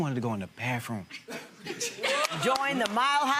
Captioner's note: gallery laughs